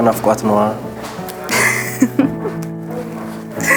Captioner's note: laughter